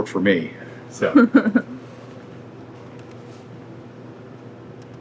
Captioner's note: laughing